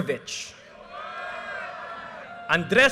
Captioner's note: audience cheers and applause